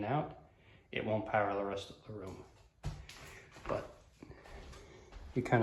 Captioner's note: footsteps